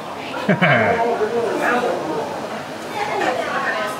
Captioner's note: chuckles